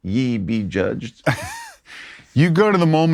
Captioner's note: laughs